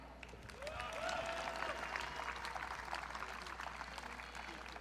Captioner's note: audience cheering